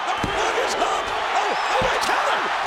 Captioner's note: audience cheering and clapping